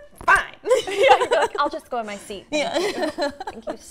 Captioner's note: laughter